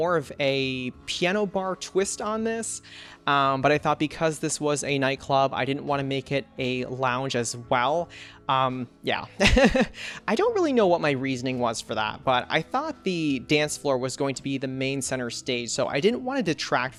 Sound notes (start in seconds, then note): 9.4 laughs